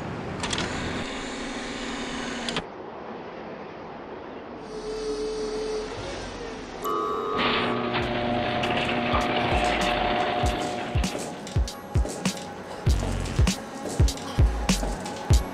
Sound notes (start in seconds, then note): 0.5 door opens; 5.1 mechanical whirring; 8.6 upbeat music